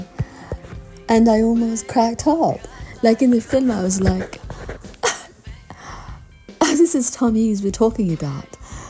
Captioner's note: giggle